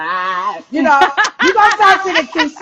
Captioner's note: laughing